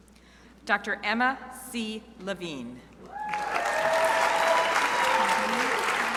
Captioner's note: crowd applauding